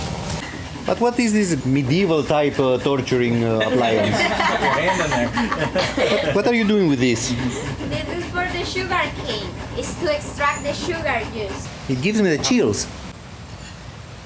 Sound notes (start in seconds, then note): 3.8 laughing